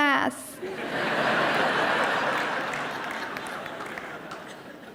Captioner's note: audience laughing